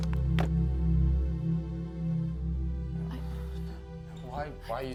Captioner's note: drawer opening